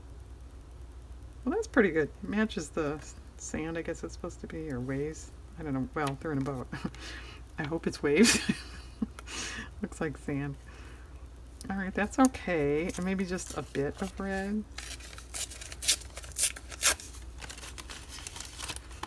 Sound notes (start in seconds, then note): 9.2 laughs